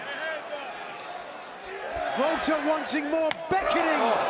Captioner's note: crowd cheering